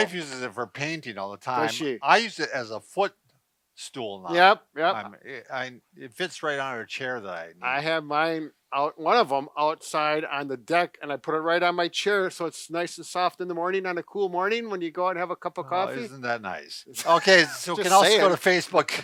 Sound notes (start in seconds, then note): 16.9 laughs; 17.0 chuckles